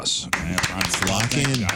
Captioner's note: audience Clapping